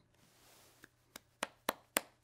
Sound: claps

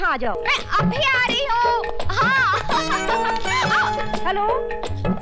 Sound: laughs

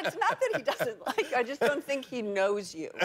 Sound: laughter

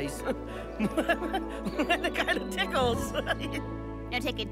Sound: giggling

